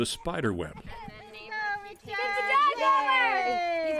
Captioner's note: cheering